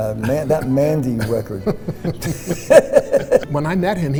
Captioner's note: laughing